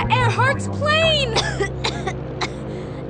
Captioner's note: coughs